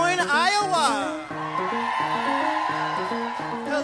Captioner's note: cheering